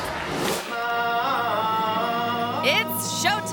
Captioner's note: audience applauds; actor vocalizing